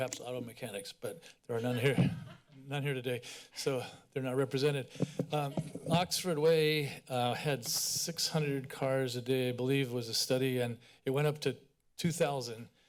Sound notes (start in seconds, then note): 1.7 laughter